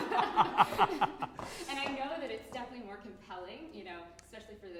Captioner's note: laughter